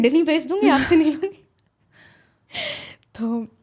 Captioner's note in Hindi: अचानक ज़ोर से सांस लेने की आवाज़